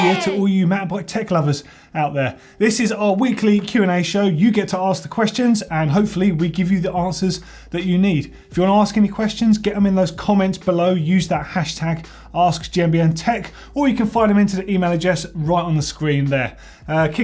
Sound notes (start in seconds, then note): none